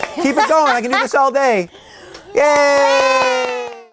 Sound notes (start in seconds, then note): 2.3 cheering